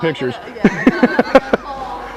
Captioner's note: more laughter